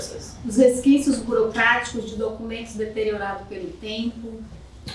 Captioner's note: speaking portuguese